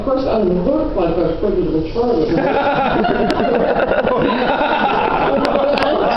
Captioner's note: laughter